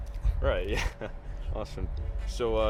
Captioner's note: laughs